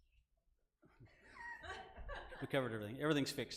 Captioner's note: laughing